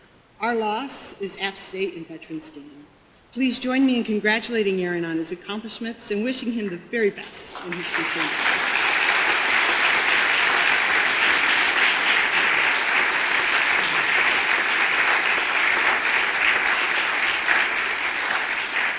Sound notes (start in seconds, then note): 7.8 audience applause